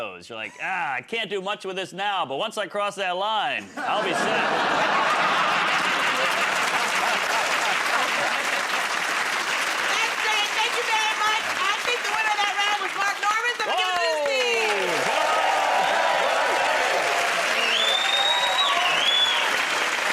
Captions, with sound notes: You're like, "Ah, I can't do much with this now. But once I cross that line, I'll be set." [ Laughter ] [ Applause ] -That's great. Thank you very much. I think the winner of that round was Mark Normand, so I'm going to give it to his team! [ Cheers and applause ]